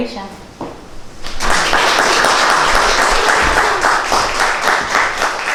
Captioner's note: applause